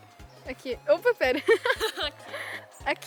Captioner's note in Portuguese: risos